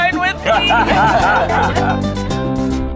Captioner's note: laughing; upbeat music